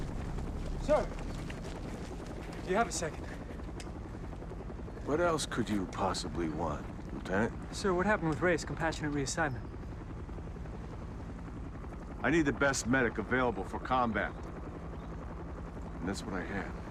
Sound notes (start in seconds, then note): 3.6 helicopter flying